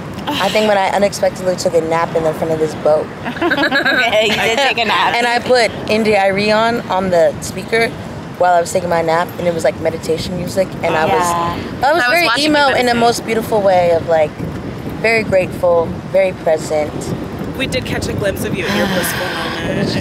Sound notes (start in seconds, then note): 3.2 all laugh